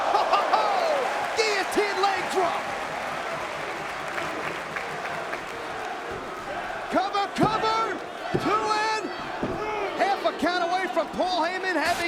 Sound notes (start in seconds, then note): 0.0 spectators exclaiming; 0.0 chuckling; 3.5 spectators chanting "Sabu!"; 4.0 spectators applauding